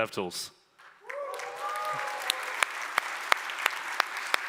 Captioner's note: applause